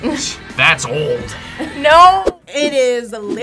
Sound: React laughs

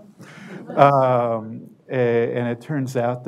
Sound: audience laughter

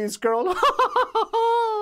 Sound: laughs

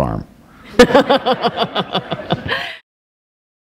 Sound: laughter

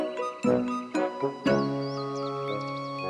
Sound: bird chirps

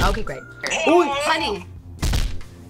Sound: buzzer rings

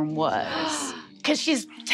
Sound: gasps

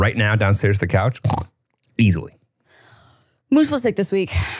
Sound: snores; sighs

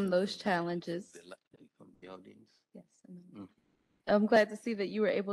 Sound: faintly speaking

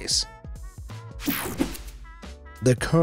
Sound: swooshes

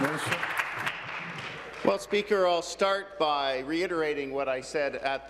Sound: applause

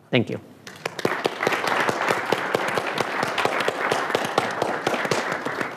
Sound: audience applauding

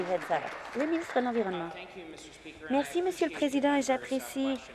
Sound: applause

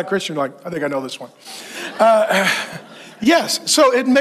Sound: congregation laughs

